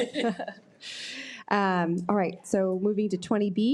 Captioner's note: laughing